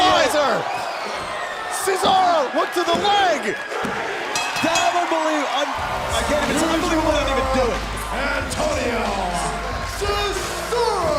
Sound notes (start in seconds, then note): 1.6 bell ringing